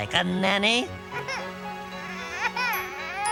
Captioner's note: baby crying